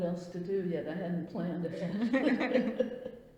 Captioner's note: laughs